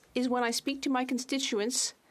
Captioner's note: speaking French